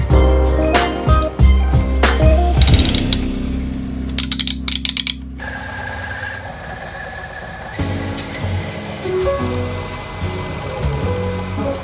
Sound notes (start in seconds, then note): 4.1 gears clicking; 5.4 motor humming; 7.8 soothing jazz music